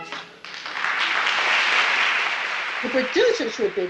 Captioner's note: audience applause